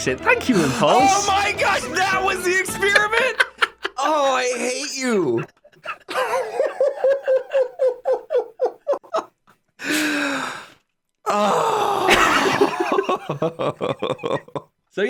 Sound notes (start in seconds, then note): 4.6 both laugh; 4.9 laughs